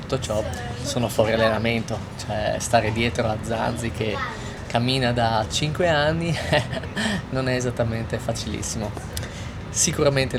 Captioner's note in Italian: risate